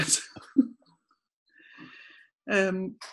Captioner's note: laughs